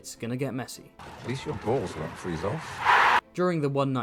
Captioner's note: audience cheer